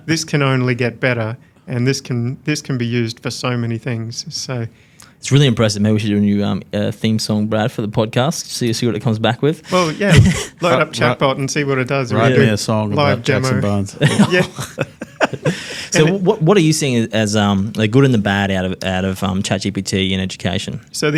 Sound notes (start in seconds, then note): 9.7 chuckles; 13.9 laughs